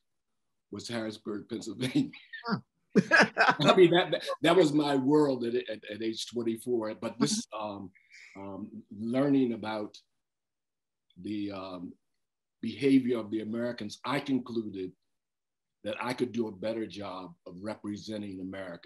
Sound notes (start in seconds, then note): 3.0 laughter